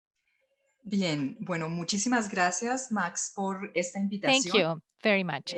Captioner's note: in foreign language